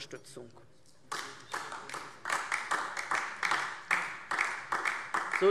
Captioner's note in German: Beifall DIE LINKE